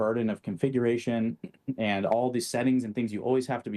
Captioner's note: clears throat